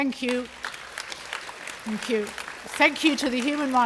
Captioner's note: applause